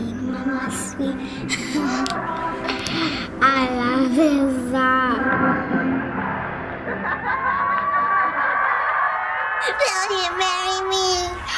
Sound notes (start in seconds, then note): 0.6 giggles; 6.7 in video: laughter and cheering; 9.7 falsetto voice